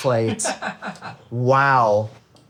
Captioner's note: laughing